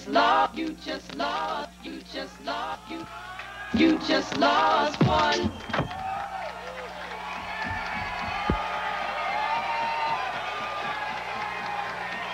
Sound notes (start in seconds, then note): 8.3 crowd cheering